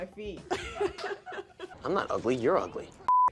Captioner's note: both laugh